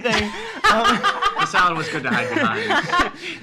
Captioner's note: laughing